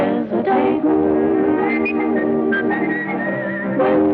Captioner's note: whistling; singing